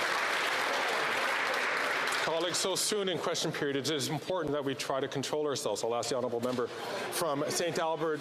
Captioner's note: some Applause